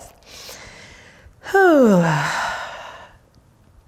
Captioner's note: sighs